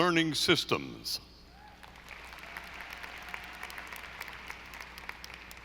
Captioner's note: audience applauding